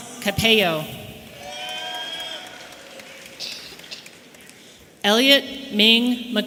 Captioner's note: audience cheering